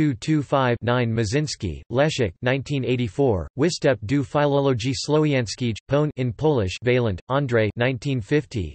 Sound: in Polish

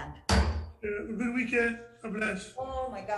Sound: gavel banging

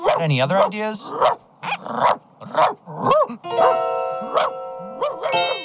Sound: barking

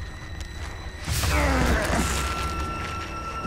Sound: groaning

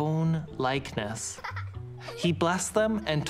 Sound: people laughing

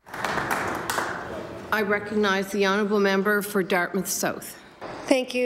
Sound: some Applause

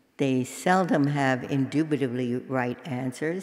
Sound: none

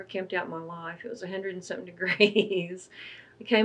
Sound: laughs

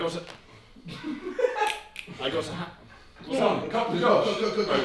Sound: fingers clicking

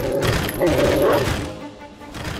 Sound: growling

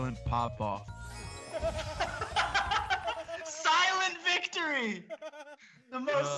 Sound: laugh

